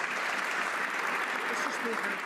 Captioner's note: some Applause